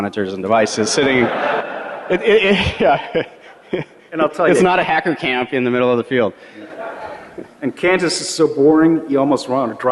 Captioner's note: laughter